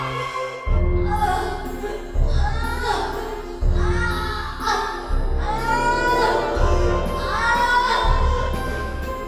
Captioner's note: moaning